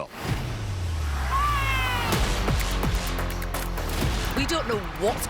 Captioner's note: cheering